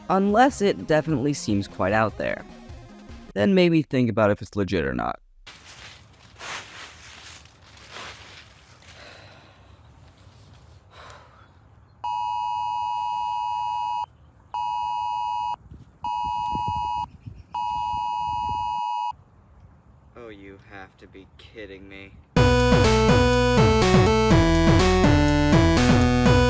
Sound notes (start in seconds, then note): 5.4 leaves crunching; 10.9 exhales; 12.1 phone beeps; 22.4 outro music plays